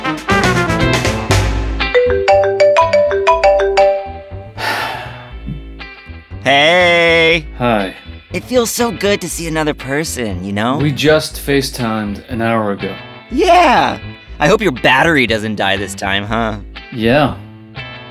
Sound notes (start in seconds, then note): 1.9 phone ringing; 4.5 sigh